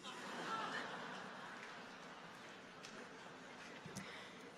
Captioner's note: audience laughing